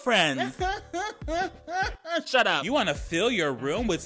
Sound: man laughing

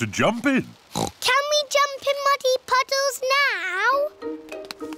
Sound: oinks

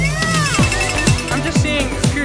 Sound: cowbell ringing

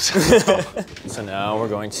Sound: both laugh

